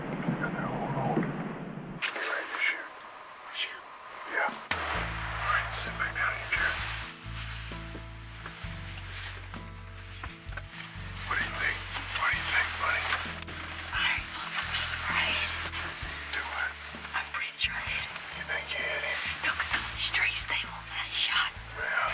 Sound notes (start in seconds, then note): 4.6 gunshot